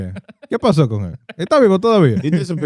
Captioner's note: non-english Speech